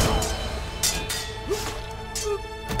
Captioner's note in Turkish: Kılıç sesleri